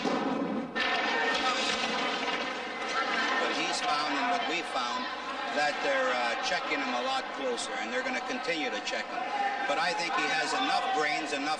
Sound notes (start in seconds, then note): 2.8 audience cheering; 2.8 skates scraping